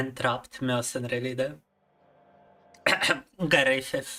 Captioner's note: cough